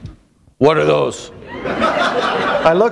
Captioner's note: laughter